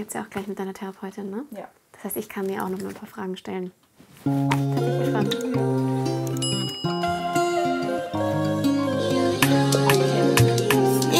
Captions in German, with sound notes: Wir sprechen jetzt gleich mit deiner Therapeutin, ne? Das heißt, ich kann ihr auch noch mal 'n paar Fragen stellen. Bin gespannt. (Klingeln) (Unruhige Musik)